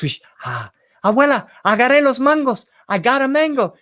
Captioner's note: spoken in foreign language